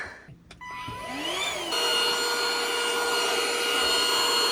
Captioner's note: vacuum humming